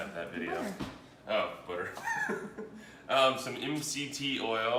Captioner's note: laughs